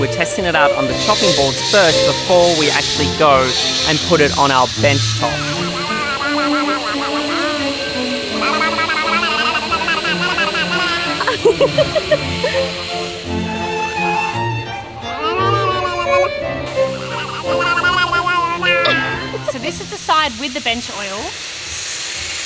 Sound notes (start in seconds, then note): 5.6 baby mumbling; 11.5 laughing; 15.1 baby mumbling; 18.9 laughing